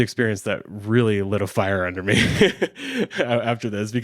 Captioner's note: laughs